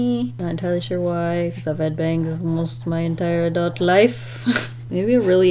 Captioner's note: chortle